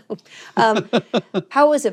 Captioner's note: laughs